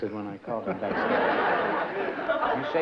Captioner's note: laughter